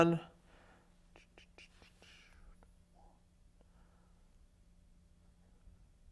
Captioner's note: instructor exhales rhythmically